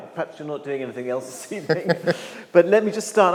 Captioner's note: laughs